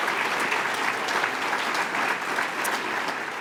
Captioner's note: applause